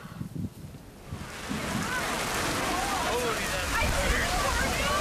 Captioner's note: animated chatter; hail hissing